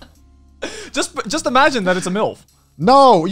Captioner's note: laughs